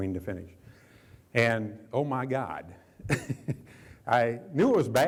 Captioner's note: chuckles